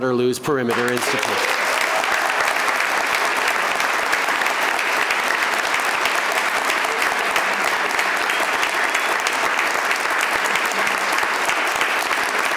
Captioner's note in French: Applaudissements